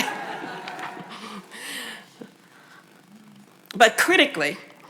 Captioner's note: audience laughs